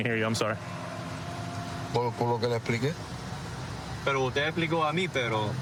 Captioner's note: speaking spanish